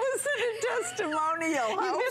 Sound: laughter

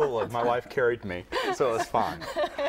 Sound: laughter

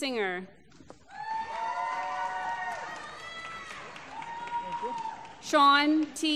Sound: applause

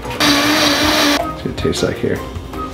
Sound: blender whirring

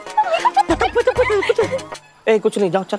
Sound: mumbles in excitement

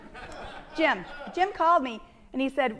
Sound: audience laughing

